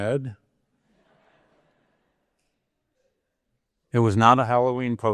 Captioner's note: audience laughing